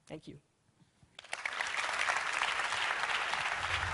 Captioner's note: applause